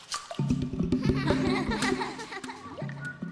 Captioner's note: tones echoing